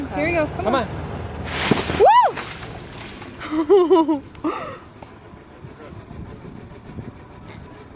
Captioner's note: laughs